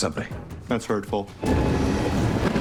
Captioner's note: Batmobile revving